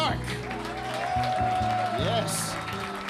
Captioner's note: audience applauding and cheering